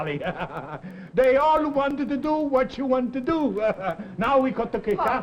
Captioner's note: laughs; laughs